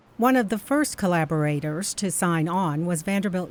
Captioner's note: voiceover